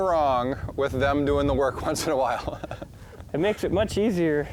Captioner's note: laughs